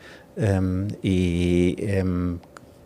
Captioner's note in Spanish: none